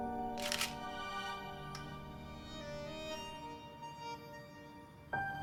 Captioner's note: camera shutter snapping